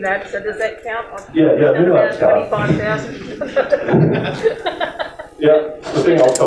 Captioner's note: chuckles